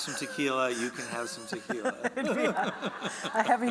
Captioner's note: laughing